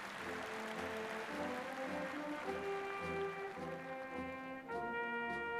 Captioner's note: applause